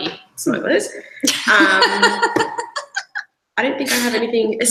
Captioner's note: laughs